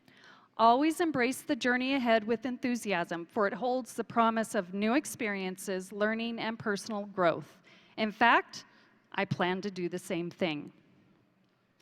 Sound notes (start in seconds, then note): none